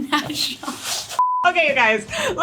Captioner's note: beep